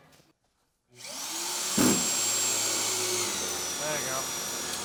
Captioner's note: drilling noises